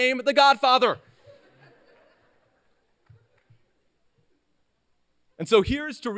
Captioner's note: laughter